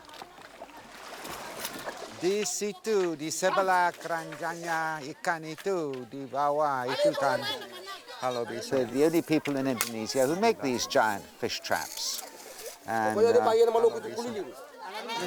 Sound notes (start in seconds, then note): 2.3 man speaking Austronesian language; 13.3 man speaking Austronesian language